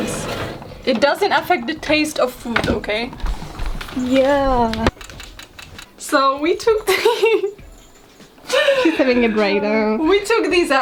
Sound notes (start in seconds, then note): 4.5 timer ticking; 6.7 starts laughing